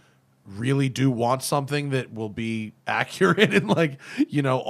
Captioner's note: laughter